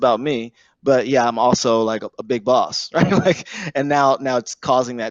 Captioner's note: laughs